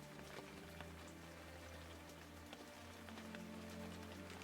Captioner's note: rain pouring